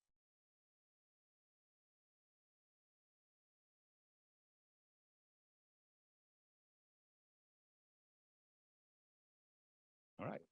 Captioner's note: no sound